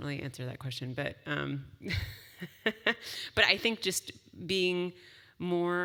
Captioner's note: laugh